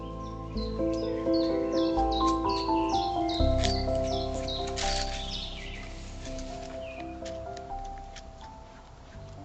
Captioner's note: morning birds